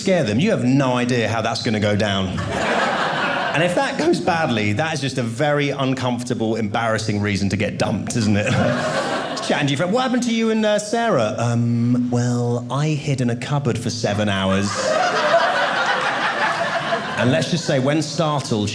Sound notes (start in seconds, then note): 14.6 audience laughing